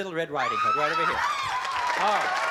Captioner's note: screams